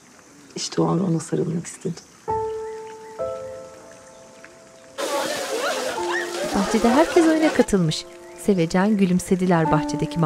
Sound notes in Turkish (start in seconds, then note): 4.6 Gülme sesleri